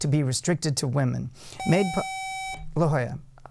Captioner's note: buzzer